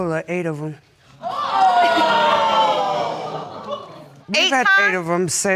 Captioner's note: audience exclaiming